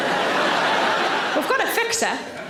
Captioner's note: audience laughter